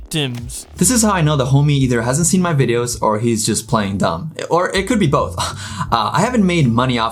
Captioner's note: laughs